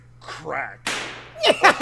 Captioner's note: gunshot; offscreen laughing